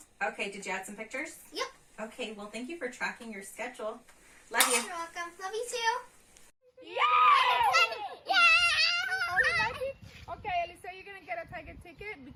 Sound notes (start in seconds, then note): 6.8 children cheering